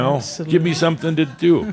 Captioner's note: some chuckles